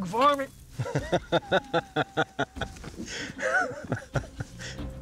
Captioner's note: laughs